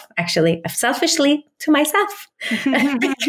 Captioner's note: laughs